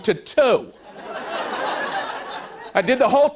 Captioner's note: laughter